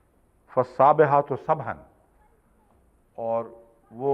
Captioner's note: Arabic